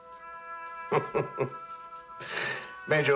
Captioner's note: chuckles